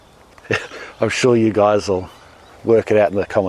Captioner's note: laughs